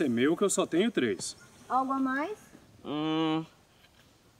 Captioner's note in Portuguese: resmungo negativo